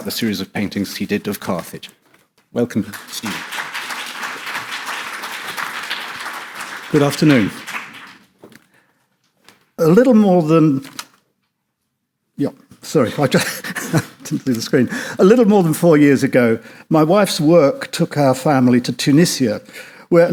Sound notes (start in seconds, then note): 2.8 audience applauds